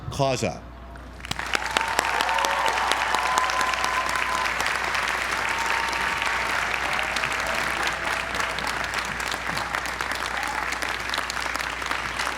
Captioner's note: applause